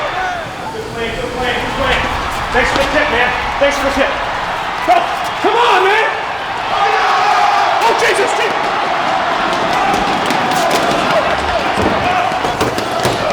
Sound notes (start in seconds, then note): 6.9 group clamoring; 9.4 feet shuffling